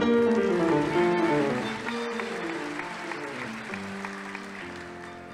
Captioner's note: audience applauding